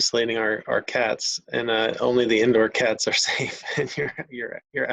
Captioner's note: chuckles